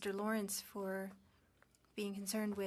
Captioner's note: speaking French